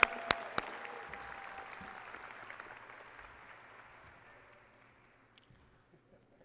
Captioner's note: applause and cheering